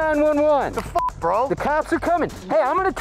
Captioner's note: beep